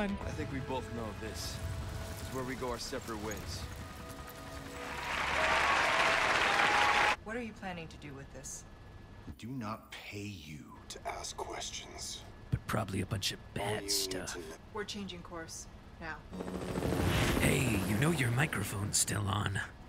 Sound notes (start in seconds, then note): 4.7 applause